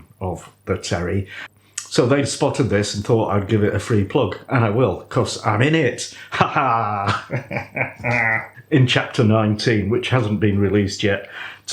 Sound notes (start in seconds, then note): 6.3 pantomime villain laugh